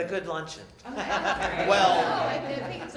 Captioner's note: laughter